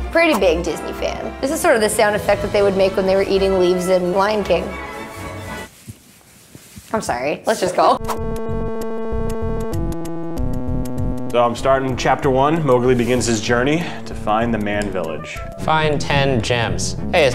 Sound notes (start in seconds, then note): 5.3 munching; 9.2 fun electronic music